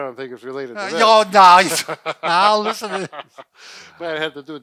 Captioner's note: laughs